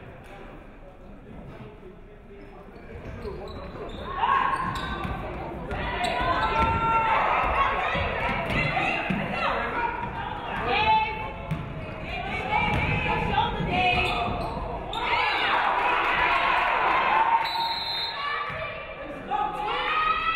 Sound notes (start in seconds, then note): 15.1 audience cheering; 15.2 audience clapping; 17.4 referee whistles